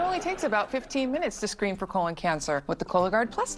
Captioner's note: audience: laugh track